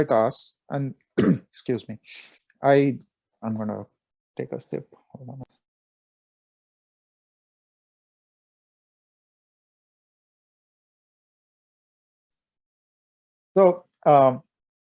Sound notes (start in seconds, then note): 1.2 coughs